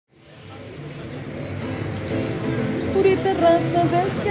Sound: birds chirping; woman singing

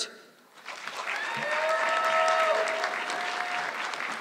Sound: audience clapping

